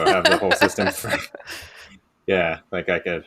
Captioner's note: laughter